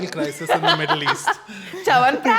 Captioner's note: laughs